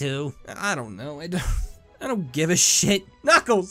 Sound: sighs

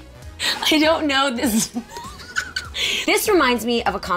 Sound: laughing

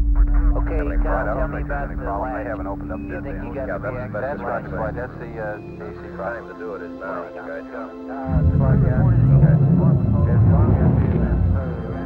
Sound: radio Chatter

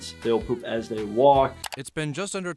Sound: computer mouse clicks

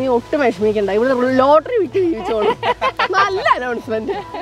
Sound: laughing

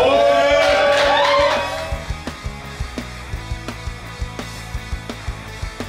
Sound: crowd cheering and applauding

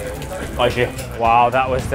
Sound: speaking in foreign language

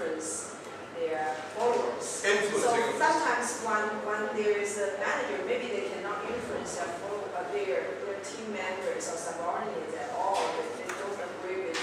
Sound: audience Speaking

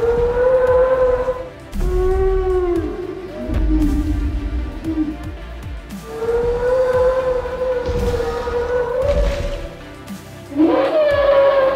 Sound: brachiosaurus Sounds

